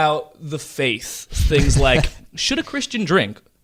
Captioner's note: laughing